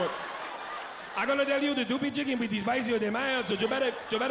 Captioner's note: thick accent